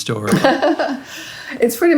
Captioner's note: laughing